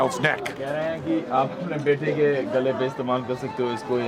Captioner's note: non-english speech